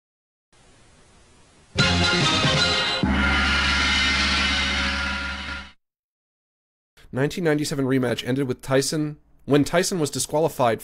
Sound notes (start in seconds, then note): 1.8 upbeat foreign music plays; 2.9 gong crashes